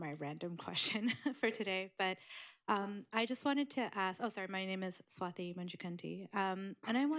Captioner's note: laughs